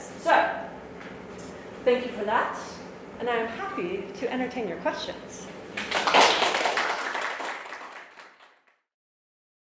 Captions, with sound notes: So, thank you for that. And I'm happy to entertain your questions. (audience applauds)